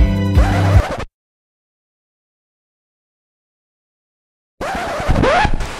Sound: needle skidding across vinyl record

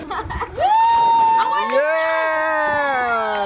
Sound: cheering

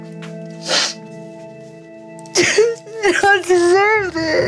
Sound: JWoww sobbing

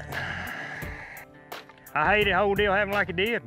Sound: sighs

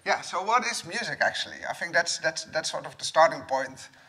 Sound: none

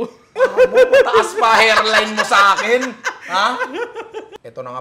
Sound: laughs

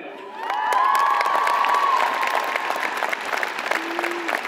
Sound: audience applauds

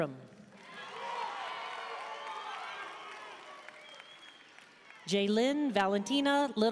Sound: audience cheering and applauding

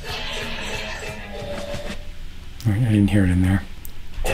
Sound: puzzle audio: Eee-ooh!

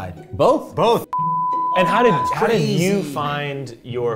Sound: beep

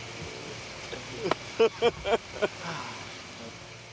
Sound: laughing

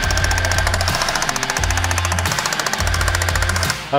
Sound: loud clanking

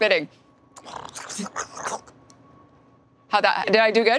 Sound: spits; makes gargling sounds

